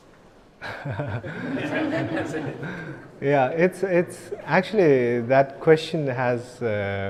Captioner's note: chuckles